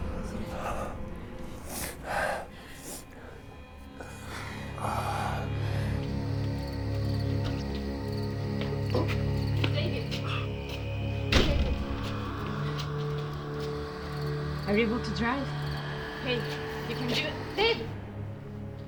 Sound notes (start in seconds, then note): 0.2 soft tense music; 11.2 door thudding; 18.7 soft tense music